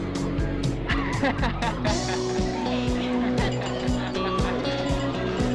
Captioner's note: Steve laughing